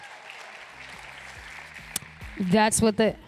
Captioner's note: applause